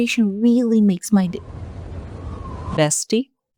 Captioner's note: wind sfx, tickets again